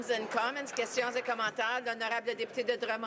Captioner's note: some applause